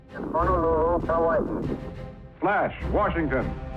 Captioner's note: dramatic music; muffled radio chatter